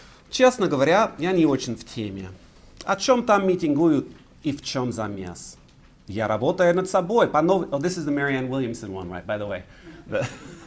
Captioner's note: speaking russian; laughs